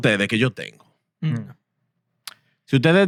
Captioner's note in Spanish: Hablando en idioma extranjero